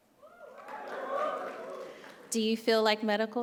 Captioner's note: crowd faintly shouting